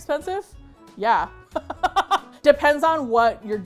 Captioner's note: laughs